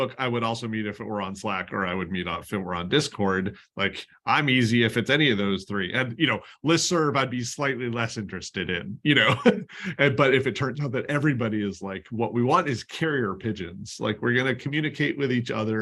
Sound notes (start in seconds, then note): 9.1 laughter